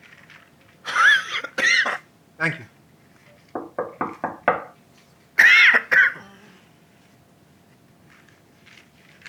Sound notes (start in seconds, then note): 1.0 Warren coughs; 3.5 door knocks; 5.4 Warren coughs